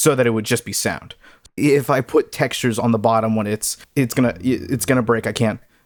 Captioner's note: stammers